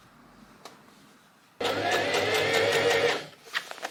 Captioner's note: sewing machine surges